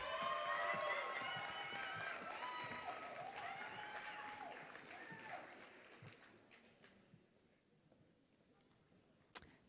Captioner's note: applause